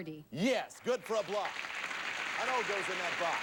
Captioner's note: audience applauding